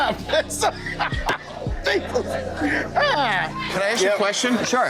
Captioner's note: laughs